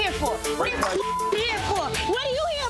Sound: beeps

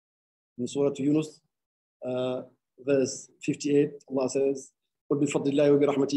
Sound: speaking arabic

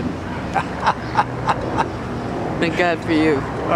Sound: laughs

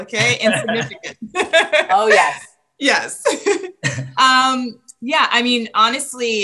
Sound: laughs; laughs

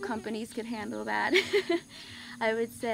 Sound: chuckles

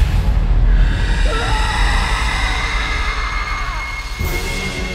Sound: Gus screams

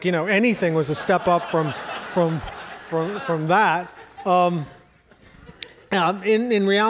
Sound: audience laughs

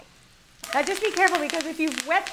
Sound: oil cracking

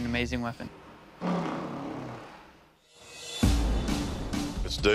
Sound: blows raspberry

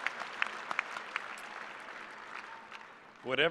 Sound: cheers and applause

